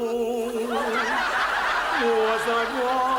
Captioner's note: audience laughs